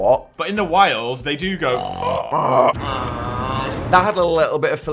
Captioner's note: makes throaty noise